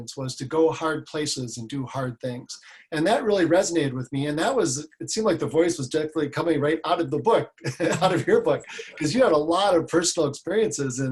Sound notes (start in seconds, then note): 7.6 laughs